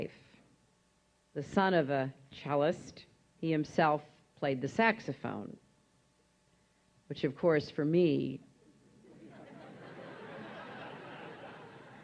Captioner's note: laughter